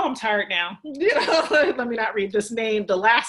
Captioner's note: laughs